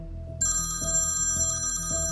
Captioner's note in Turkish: Telefon çalıyor